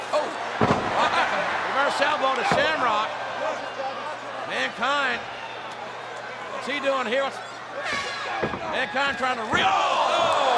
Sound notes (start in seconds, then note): 0.6 body thuds